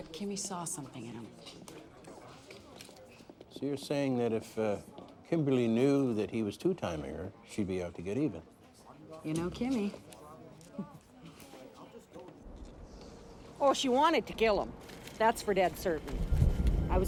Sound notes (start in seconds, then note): 10.5 chuckles softly